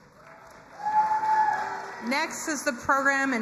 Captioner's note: crowd cheering and applauding